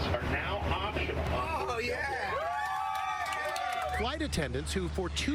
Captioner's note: cheers and applause